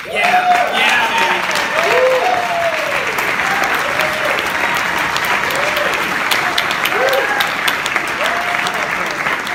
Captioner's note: applause